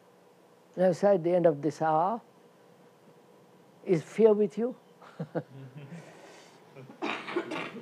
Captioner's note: laughs